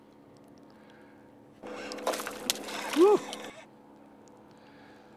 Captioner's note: splash